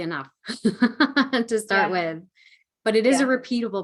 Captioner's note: laughing